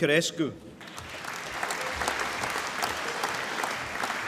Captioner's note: applause